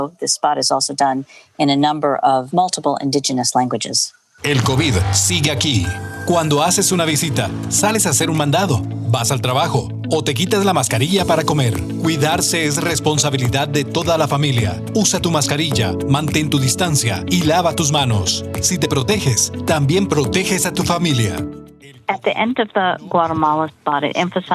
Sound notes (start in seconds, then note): 4.8 speaking spanish